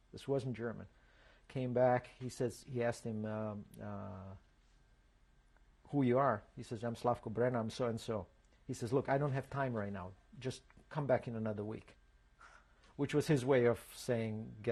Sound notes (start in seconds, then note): 3.3 pauses for 3 seconds